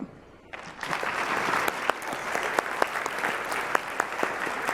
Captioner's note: applause